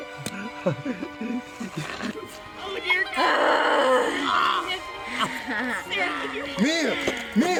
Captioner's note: Crying from wounded man, growling from Mia